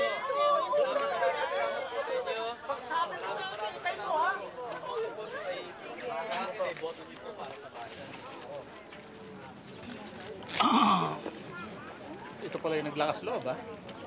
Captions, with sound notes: [clears throat] You took courage to campaign here.